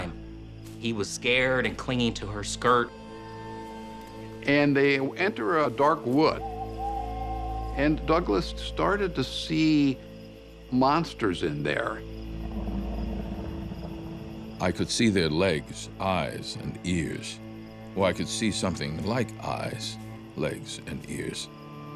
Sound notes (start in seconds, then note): 6.3 owl hooting; 12.4 monster grumbling